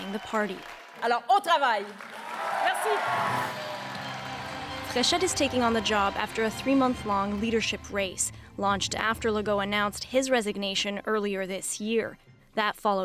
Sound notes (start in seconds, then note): 3.0 speaking French; 4.0 cheers and Applause